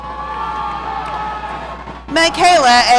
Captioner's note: audience cheering